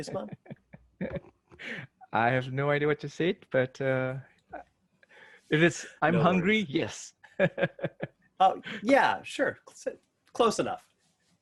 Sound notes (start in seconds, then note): 0.1 laughs; 7.4 laughs